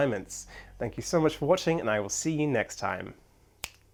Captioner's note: clicks